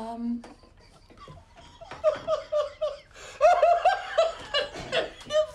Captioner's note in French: en riant